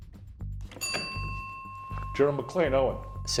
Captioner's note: bell ringing